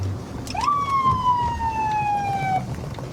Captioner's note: sirens blaring